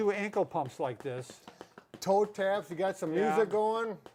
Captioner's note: shoes tapping